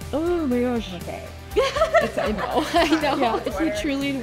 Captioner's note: laughing